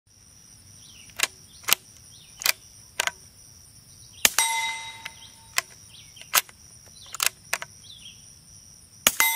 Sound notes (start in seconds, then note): 0.8 insects buzzing and gun reloading; 4.3 metal ding of target being hit; 6.9 gun reloading; 9.1 metal ding and gun reloading